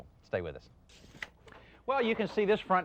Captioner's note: tape measure slaps